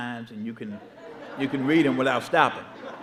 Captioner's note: audience laughing